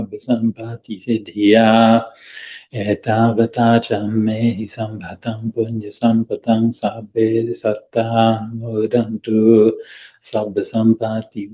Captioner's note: chanting in Pali